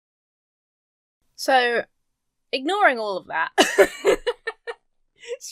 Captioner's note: breaks into laughter